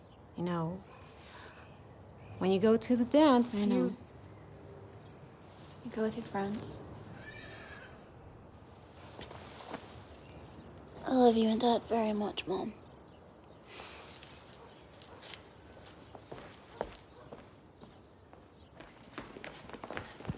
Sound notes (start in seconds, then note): 7.1 horse whinnies; 15.0 birds chipping; 15.0 dog barks distantly